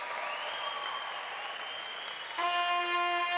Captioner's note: applause